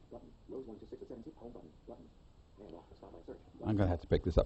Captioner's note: iPhone announcing highlighted tabs